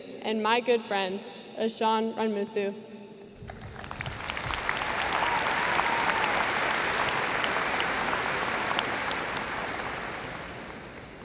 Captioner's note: applause